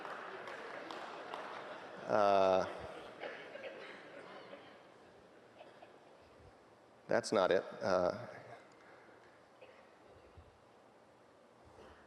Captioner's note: laughing; clapping